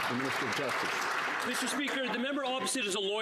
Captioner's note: some Applause